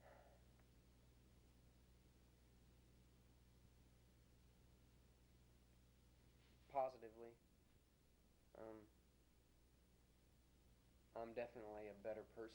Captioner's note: pause